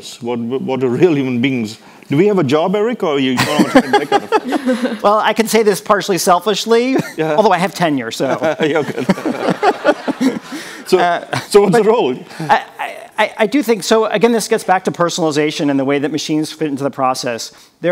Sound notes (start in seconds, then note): 3.4 laughs; 8.1 people laughing; 8.2 chuckles